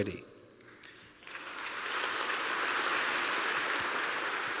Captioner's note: applause